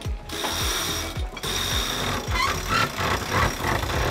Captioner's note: chain rattles